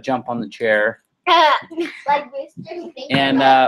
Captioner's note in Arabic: يضحك